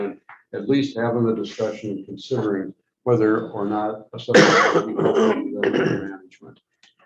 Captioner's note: coughing